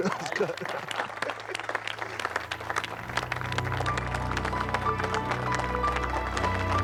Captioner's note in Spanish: risas; aplausos